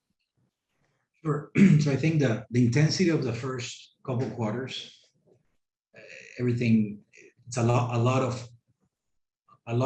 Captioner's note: cough